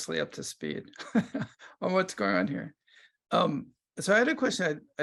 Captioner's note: laughs